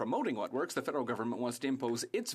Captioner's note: speaking French